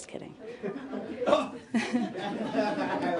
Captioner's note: laughter